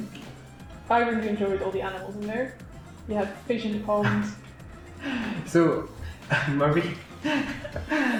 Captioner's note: laughs